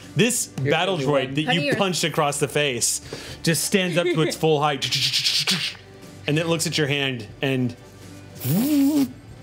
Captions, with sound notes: - This battle droid that you punched across the face just stands up to its full height, and then it looks at your hand, and (buzzes).